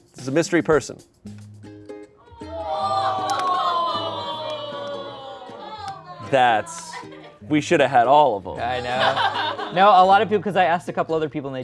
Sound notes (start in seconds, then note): 2.4 audience exclaims